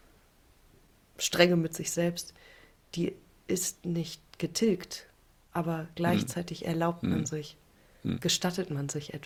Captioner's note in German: räuspern